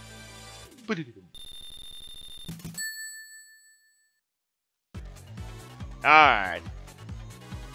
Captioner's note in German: macht Soundeffekte